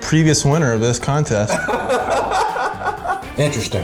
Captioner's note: laughs